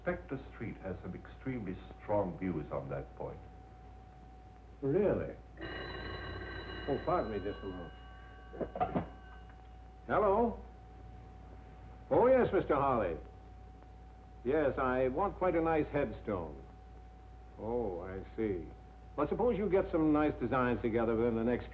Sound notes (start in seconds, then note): 5.5 phone ringing